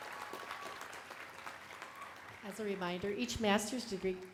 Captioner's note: applause